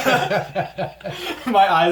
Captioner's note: all laugh